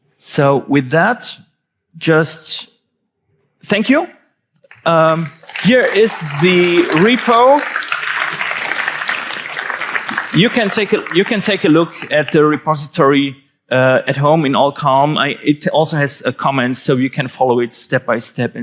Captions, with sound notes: So with that, just thank you. Here is the repo. (audience applauding) You can take a look at the repository at home in all calm. It also has a comments so you can follow it step by step